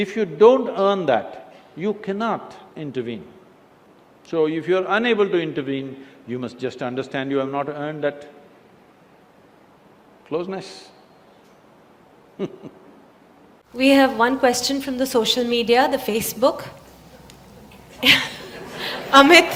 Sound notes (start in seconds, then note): 10.6 laughs; 17.7 laughter